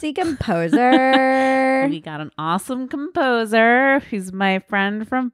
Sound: laughing

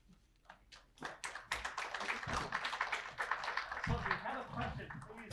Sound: audience applauding

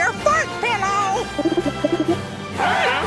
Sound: cooing

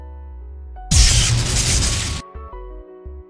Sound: zap

